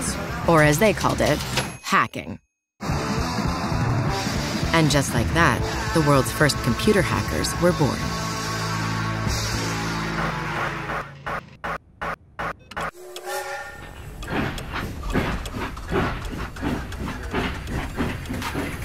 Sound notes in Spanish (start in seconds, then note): 0.9 campan de máquina de escribir; 2.8 música rock alegre; 12.9 silbido de tren; 14.5 traqueteo de tren